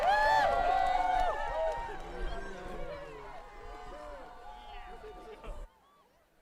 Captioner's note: applause